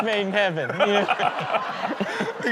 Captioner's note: audience laughs